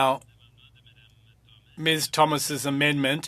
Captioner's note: speaking French